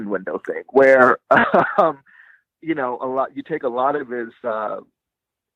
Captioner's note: chuckling